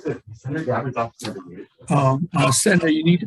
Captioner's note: voice muffling